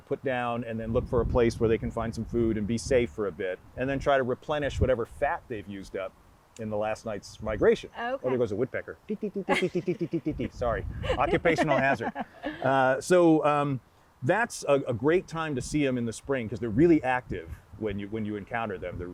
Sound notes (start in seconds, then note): 10.9 host laughing